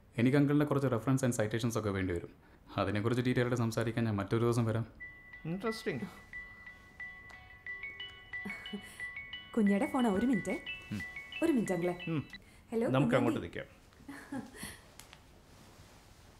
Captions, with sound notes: I would need a few references and citations from you. I will probably come another day to discuss in detail about that. Interesting (Phone Ringing) It’s a call from Kunja Aunty. Excuse me Uncle. Hello Kunja Aunty... We will go over there